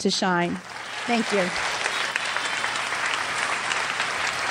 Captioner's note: crowd applauds